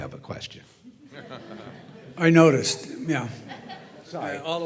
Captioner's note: laugh